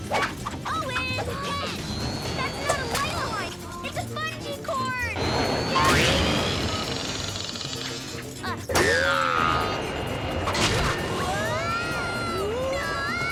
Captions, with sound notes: - Owen, catch! - That's not a lifeline, it's a bungee cord! (engines rev) (both yelling)